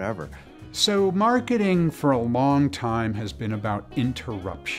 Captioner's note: voiceover